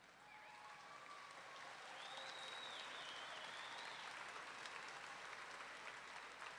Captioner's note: audience clapping and wolf-whistling